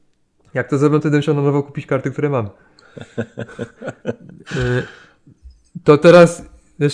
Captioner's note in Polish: śmiech